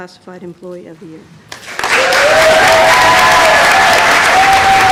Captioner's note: applause